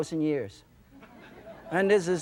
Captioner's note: laughter